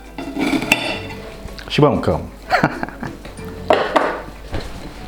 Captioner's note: laughs